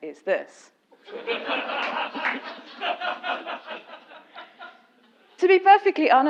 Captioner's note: laugh